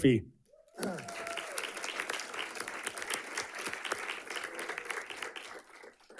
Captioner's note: audience clapping and cheering